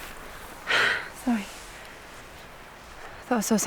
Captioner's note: deep breath